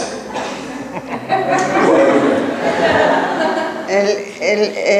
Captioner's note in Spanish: laugh